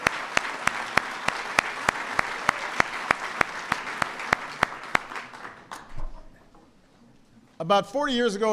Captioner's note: applause